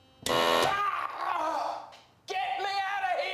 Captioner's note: machine blaring; yelling